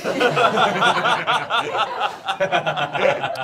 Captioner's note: all laughing